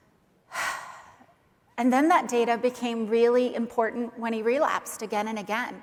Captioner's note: sighs